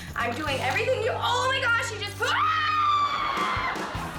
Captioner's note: screaming; audience laughing